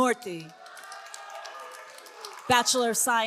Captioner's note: all cheering